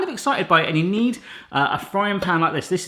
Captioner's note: none